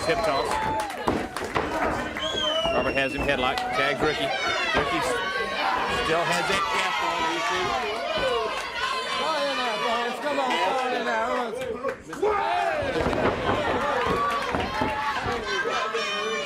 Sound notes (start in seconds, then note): 7.7 crowd chatter